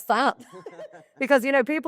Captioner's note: all laugh